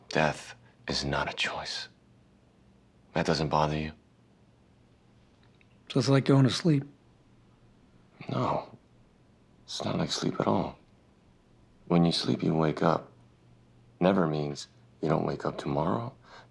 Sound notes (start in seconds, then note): none